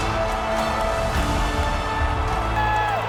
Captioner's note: crowd cheers